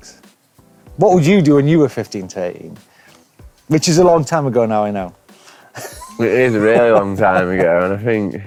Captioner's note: laughs